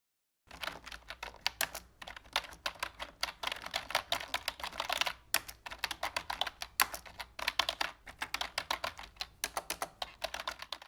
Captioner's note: sounds of typing